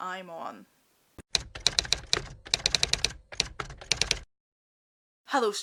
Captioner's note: typewriter Typing